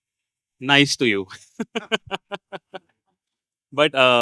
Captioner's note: laugh